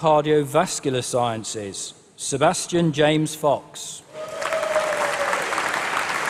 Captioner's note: applause